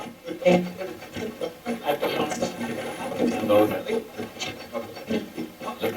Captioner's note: static playback transmitting